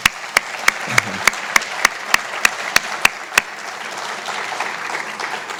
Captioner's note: applause